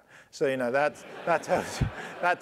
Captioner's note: laugh